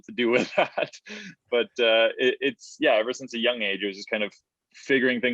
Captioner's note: chuckles